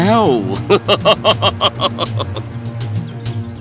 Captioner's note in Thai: หัวเราะ